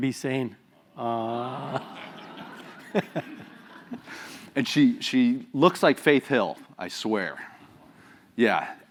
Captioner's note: laugh